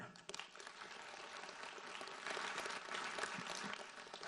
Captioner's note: audience applauds